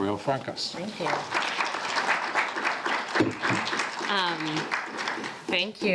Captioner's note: audience claps